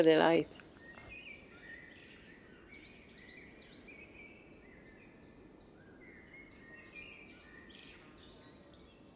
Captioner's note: nature sounds, birds singing